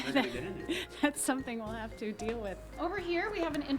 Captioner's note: chuckles